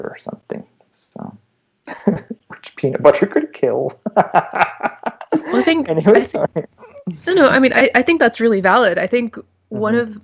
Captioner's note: laughter